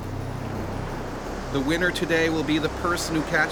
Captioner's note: voiceover